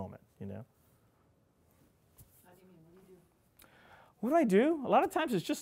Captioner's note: audience member speaking off-mic